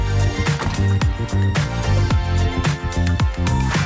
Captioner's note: upbeat music; door clacks